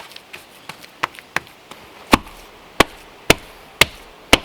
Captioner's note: patting